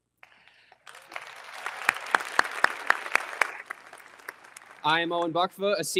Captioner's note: all applauding